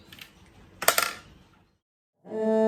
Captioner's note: blender jugs clink; three ascending cello notes, ending with a sightly clumsy vibrato